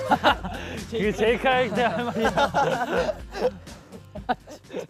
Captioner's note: cracking up from heartfelt exclamation